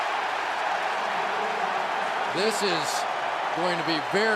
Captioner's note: cheering